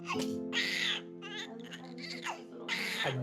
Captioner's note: baby Cries